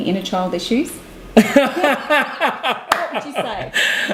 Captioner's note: laughing heartily